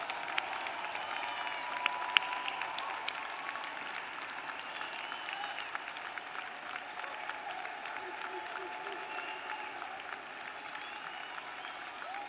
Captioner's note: applause